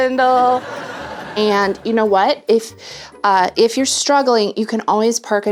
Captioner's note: generic Sitcom Laugh Track